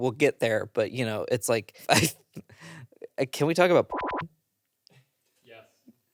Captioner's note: beep